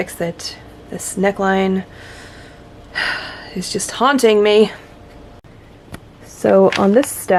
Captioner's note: sigh